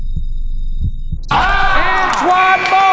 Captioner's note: dunk sound; cheers